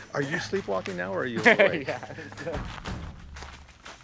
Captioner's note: laughing